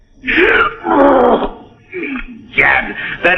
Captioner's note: Raven belches